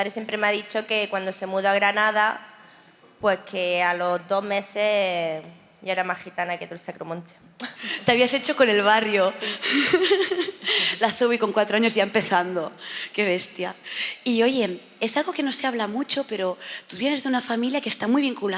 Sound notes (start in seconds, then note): 11.3 laughs